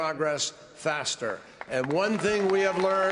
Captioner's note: applause